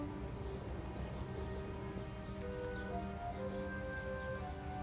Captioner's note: birds chirping